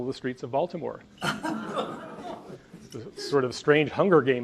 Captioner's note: audience laughs